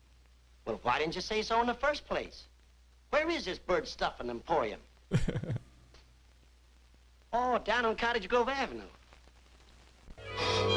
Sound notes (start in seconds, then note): 5.1 chuckles